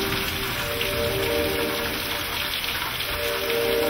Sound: heavy rain

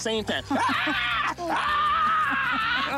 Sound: laughs

